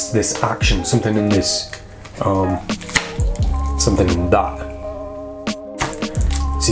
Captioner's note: snaps; snaps